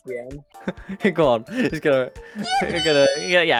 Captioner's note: laughs